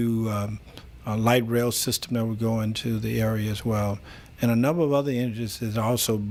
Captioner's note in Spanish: Habla en ingl\s